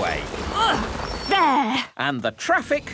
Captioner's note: grunts